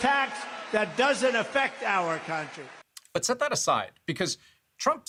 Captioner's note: cheers and Applause